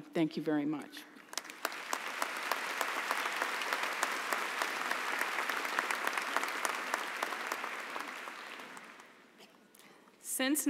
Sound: applause

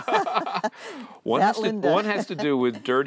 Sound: laughter

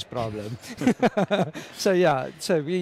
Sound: laughing

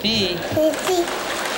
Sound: applause

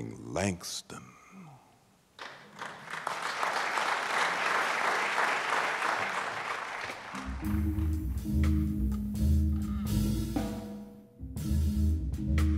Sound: applause

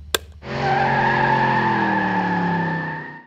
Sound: clapperboard snapping; tires screeching

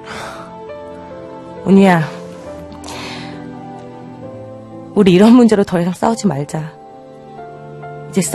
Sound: sighs

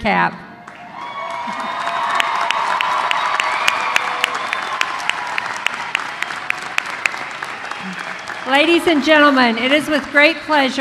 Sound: applause

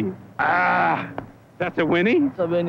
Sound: deep throat whinny

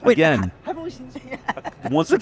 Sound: laughter

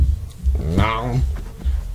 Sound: nom

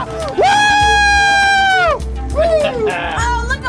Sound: cheering

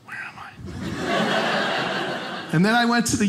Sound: audience laughing

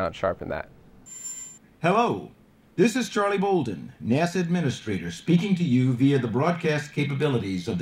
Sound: Voice of Charles Bolden

